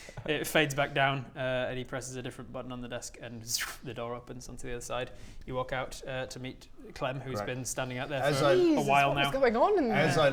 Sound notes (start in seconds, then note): 3.3 zrrooofh